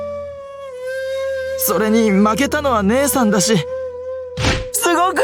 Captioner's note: slap